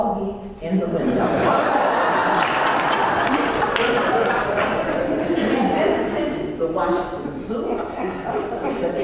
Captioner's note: laugh